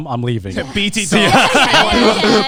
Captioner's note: everyone laughing